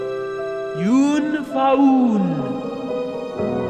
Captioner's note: voice speaking gibberish